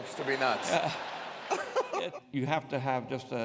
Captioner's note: laughs